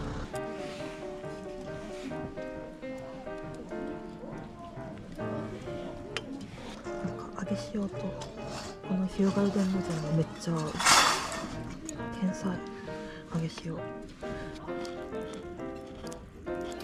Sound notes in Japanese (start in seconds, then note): 10.7 ガシャン